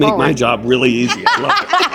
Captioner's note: laughter